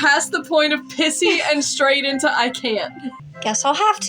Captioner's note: laugh